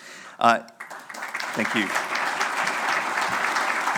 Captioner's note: audience applauding